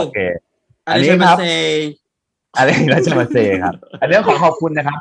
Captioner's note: japanese words